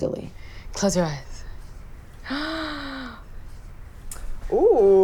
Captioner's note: gasps